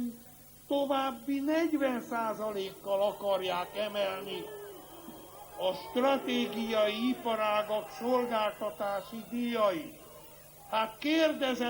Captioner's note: blowing